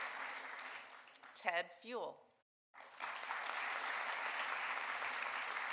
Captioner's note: audience applauding; audience applauding